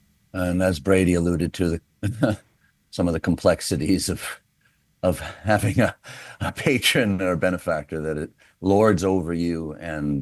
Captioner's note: chuckles